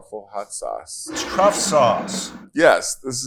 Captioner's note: bottle scrapes